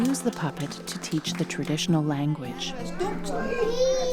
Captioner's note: laughter